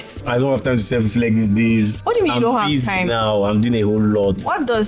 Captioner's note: none